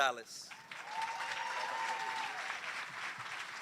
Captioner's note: applause, cheering